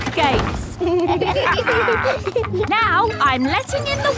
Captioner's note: kids and captain dog laughing